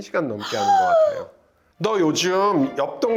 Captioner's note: gasp!